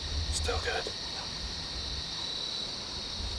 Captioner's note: whispering